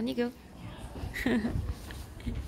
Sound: laughs

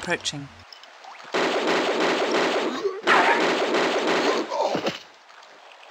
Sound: bam bam bam bam

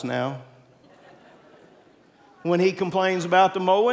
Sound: congregants laughing

